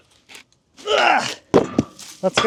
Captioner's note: grunts; log thuds